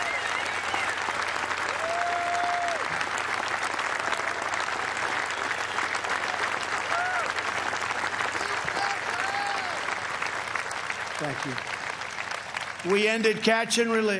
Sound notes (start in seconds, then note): 2.7 cheers and applause